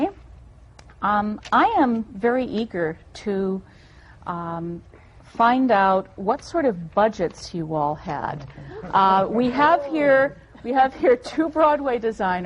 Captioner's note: laughter